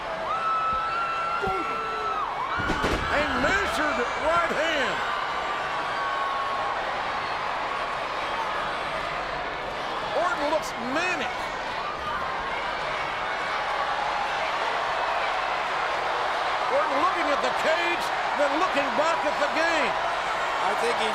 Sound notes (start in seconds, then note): 13.2 crowd cheering